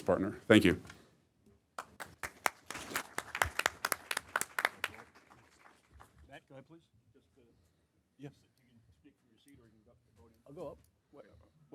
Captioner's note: applause